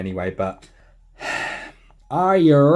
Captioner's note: sigh